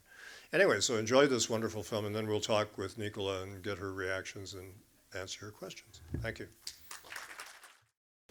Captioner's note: applause